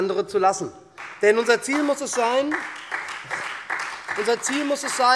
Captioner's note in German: Beifall SPD und Freie Demokraten